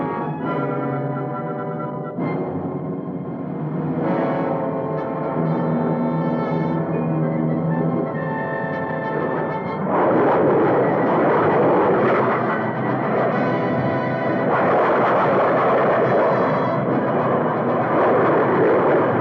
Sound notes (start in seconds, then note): 0.2 dramatic music; 10.0 engines roaring